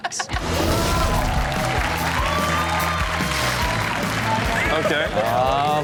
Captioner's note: audience applauding